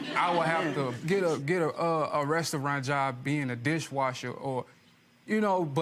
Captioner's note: audience chuckling